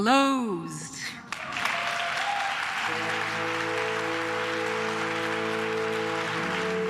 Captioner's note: claps; cheers; somber processional music